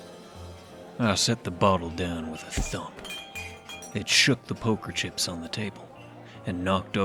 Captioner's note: thump